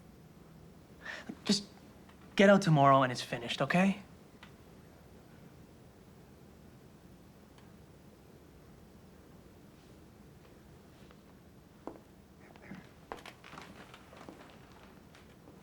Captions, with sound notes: Just get out tomorrow and it's finished. Okay? (footsteps tapping)